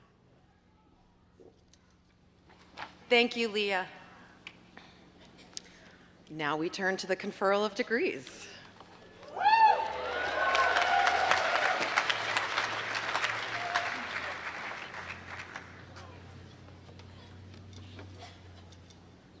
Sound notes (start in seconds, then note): 9.2 cheers and applause